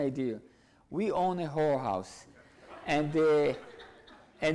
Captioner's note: audience laughs